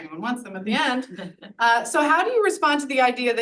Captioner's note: audience laughs